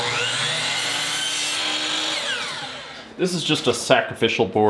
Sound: saw whirs

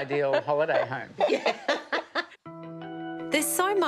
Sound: laughs

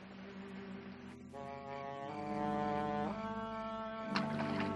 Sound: crickets chirping

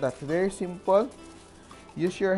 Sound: rustle

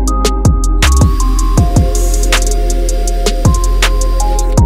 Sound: upbeat music; drill whirring

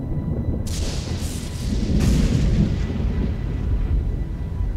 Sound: thunder rumbling loudly; lightning cracking

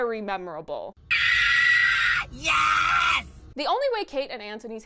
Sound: screams!

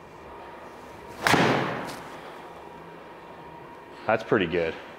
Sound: ball thuds

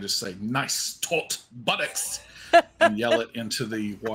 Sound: laughs

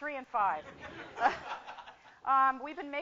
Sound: laughter

